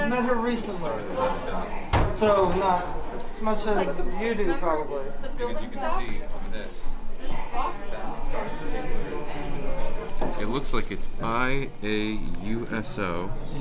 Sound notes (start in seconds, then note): none